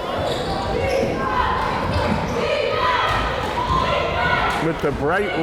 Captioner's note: crowd chanting defense